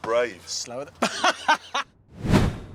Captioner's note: laughs